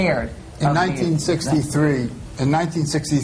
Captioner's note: none